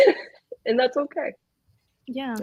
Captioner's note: laughs